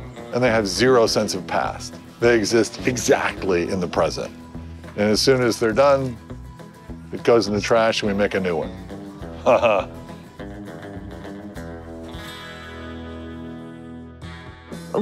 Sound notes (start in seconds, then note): 9.3 chuckles